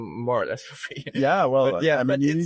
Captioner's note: chuckles